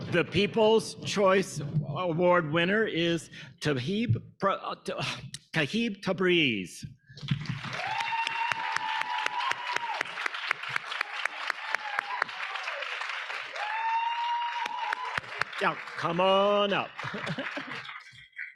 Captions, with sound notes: The People's Choice Award winner is Aaquib Tabrez. (audience applauding) (audience cheering) Now come on up.